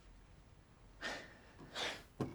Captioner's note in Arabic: جيم يتنهد